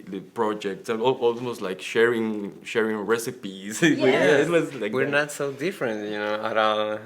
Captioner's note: laughs